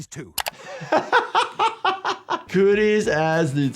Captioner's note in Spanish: se ríe